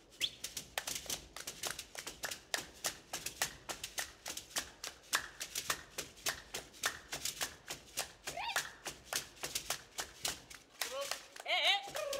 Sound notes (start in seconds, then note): 1.4 hands clapping and beads rattling; 7.8 hands clapping and beads rattling; 11.9 shouting